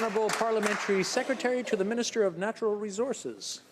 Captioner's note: some Applause